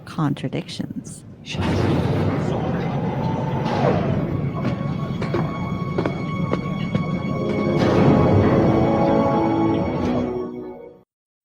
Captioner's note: airlock opens